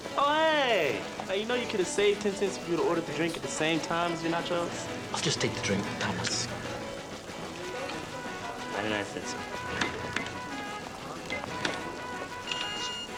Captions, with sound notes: Oh, hey! You know you could have saved 10 cents if you'd had ordered the drink at the same time as your nachos? - I'll just take the drink, Thomas. - Okay, okay. 99 cents, sir. (register beeping)